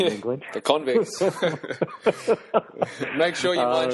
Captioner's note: laughing